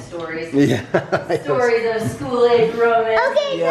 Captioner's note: laughs